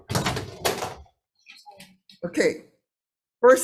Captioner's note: objects clack and slam